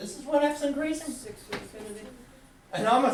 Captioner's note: voiceover